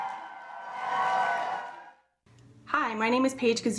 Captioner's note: crowd cheering and applauding